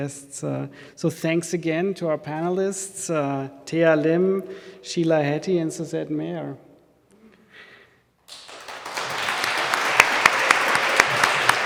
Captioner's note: audience clapping